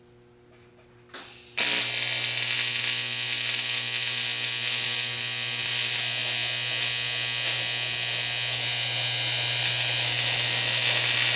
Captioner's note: welding